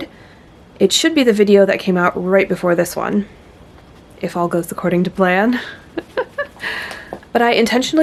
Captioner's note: nervous laughter